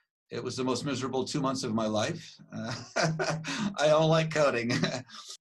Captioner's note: laughs